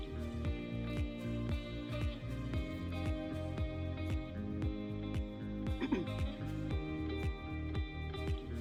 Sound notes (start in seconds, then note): 0.0 upbeat music; 5.7 clearing throat